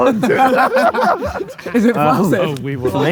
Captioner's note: group laughing